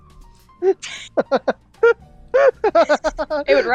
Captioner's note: laughter